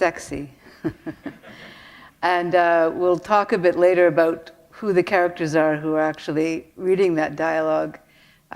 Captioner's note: chuckle